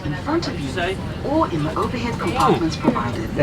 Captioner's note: background chatting